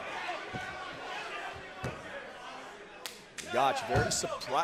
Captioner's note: crowd chatter